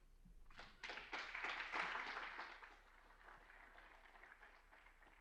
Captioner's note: applause